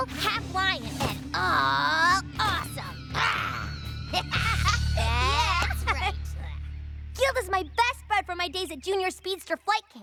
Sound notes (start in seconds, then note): 2.2 roars; 3.1 laughs